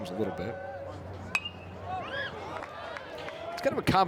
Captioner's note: bat dings